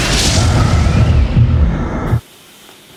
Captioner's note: breathing heavily